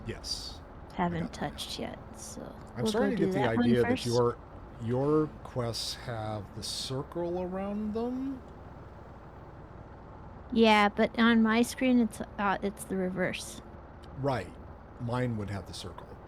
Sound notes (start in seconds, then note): none